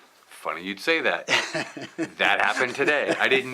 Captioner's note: laughs